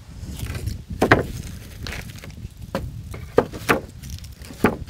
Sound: wood planks clanking

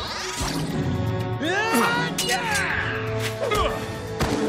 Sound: yelling

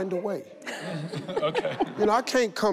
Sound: laughs

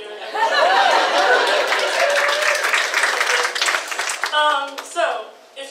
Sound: audience applauds and cheer

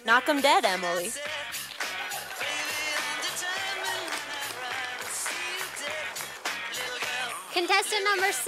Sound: sound of applause from audience

